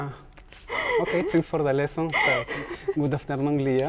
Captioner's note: chuckles